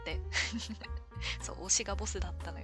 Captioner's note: laughs